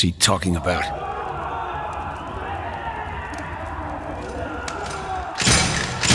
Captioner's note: distant yelling